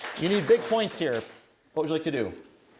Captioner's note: applause